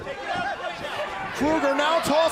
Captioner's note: crowd cheering